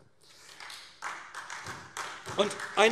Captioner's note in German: Beifall SPD